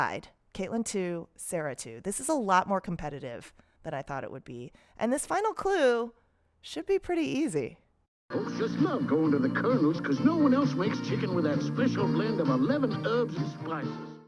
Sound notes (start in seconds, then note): 8.3 soundbite of archived recording